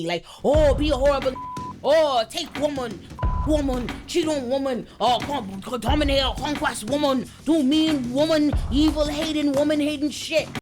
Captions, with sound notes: Like, oh, be a horrible (beep) or take woman, (beep) woman, (speaking in foreign language) do mean woman, evil-hating, woman-hating shit.